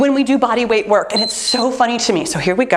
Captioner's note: timer beeps